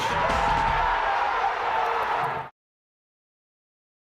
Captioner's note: cheers and applause